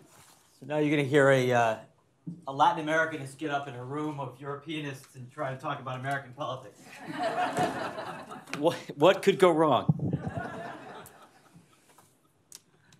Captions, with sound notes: So now you're going to hear a Latin American get up in a room of Europeanists and try to talk about American politics. [LAUGHTER] What could go wrong?